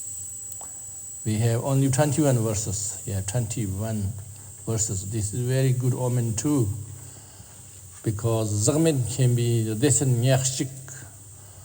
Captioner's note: tibetan